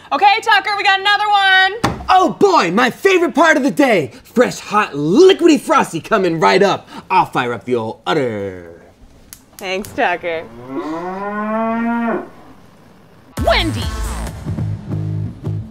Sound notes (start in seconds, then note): 9.6 stove crackling; 10.3 cow lowing; 15.4 groovy music